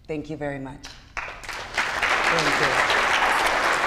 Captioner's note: applause